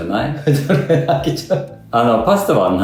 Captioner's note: laughs